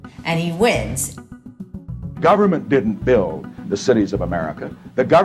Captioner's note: soundbite of archived recording